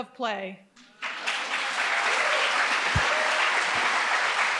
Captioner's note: audience applauds